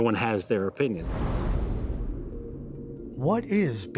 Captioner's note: wind blowing; air rushing